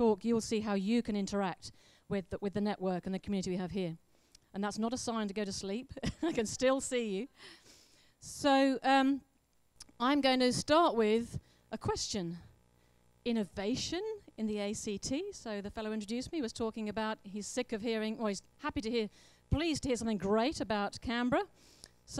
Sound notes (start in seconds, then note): 6.2 laughs